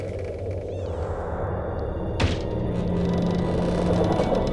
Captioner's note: door slams open; wind whistling